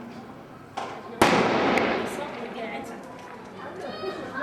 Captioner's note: loud gunshot